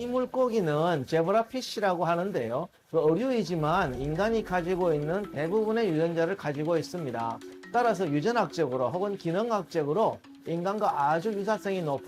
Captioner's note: voiceover